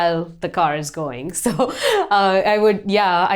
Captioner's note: laughs